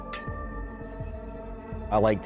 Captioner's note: bell dings; tense music